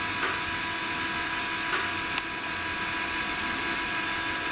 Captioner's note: clicking